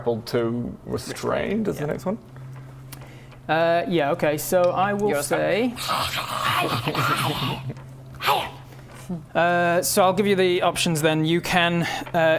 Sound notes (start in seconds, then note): 5.7 feral Talia noises